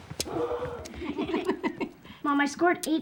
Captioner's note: all laughing